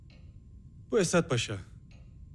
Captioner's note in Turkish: none